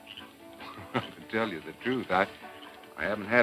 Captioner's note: laughing